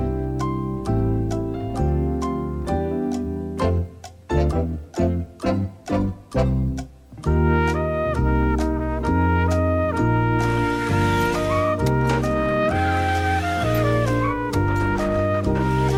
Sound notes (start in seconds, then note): 10.4 tires screeching